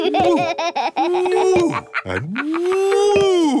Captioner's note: laughs